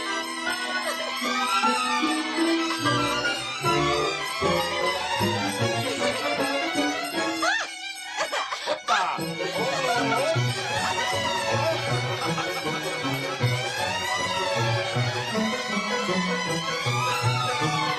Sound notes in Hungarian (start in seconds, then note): 6.8 Carolyne nevetve sikkant; 10.7 nevetés